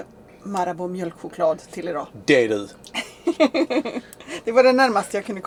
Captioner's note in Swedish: skratt